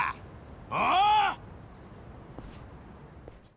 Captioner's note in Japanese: うめき声